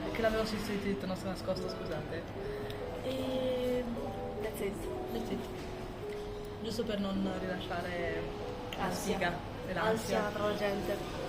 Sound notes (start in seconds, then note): 4.5 in English; 6.7 in Italian